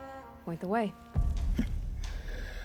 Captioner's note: laugh